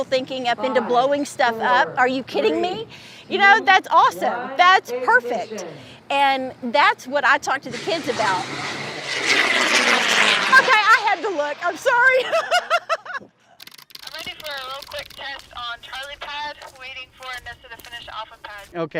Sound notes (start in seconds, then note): 7.6 rocket launching; 11.6 laughs